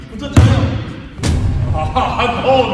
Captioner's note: thud!